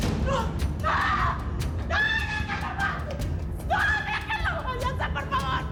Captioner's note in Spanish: ruido al dejar caer la maleta